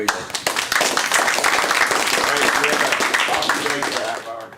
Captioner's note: applause